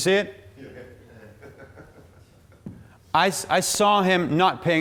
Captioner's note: man laughing